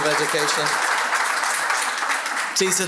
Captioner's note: applause